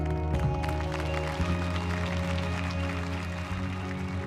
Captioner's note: audience applauding